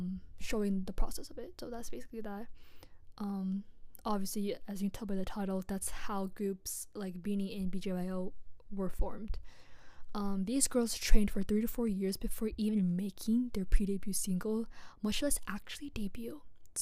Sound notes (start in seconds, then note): none